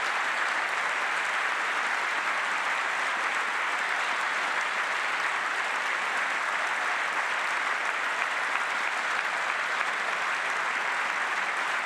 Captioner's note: applause